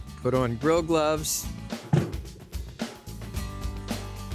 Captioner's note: thud